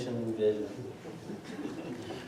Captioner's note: laughter